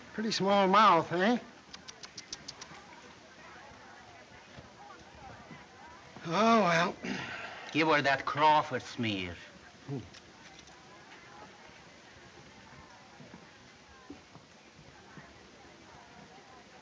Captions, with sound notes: Pretty small mouth, isn't it? [clicks tongue] Oh, well. - Give her that Crawford smear. - Hm.